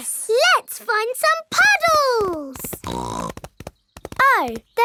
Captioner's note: snorts